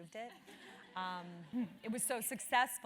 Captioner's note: laugh